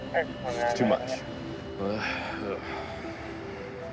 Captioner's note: sighs